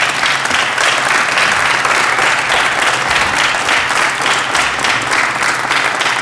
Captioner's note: applause